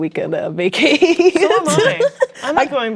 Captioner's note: laughing